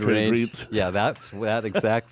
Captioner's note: laughs